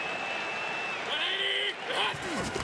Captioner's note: crowd cheering